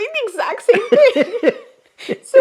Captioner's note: both laugh